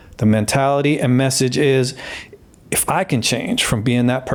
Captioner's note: none